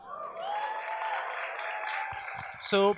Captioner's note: audience cheers